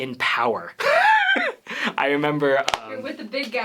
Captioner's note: laughter